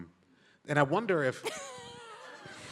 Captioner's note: laughs